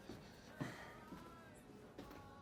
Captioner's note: sighs; pop music playing on radio